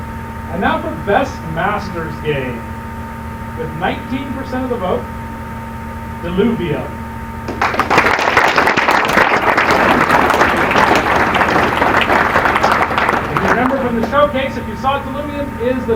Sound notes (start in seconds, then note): 7.4 applause